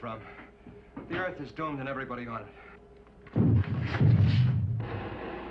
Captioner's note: rumbling